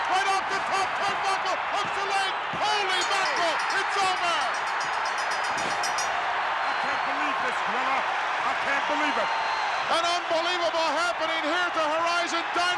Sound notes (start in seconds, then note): 0.0 crowd cheers; 5.7 bell rings